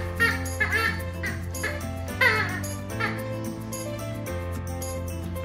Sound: toy squeaking

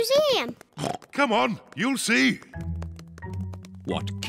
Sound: oinks

